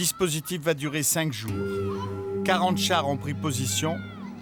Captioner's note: French spoken audio